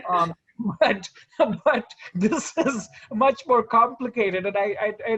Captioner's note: chuckles